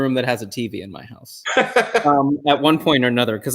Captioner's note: chuckle